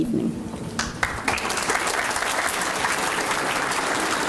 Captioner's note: applause